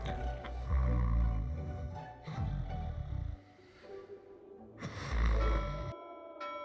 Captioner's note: snoring